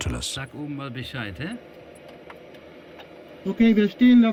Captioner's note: Dutch spoken audio